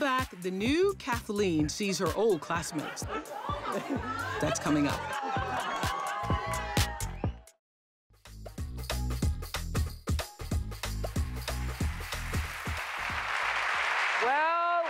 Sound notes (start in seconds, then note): 5.6 cheering; 11.1 applause